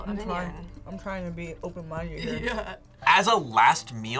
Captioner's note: laughs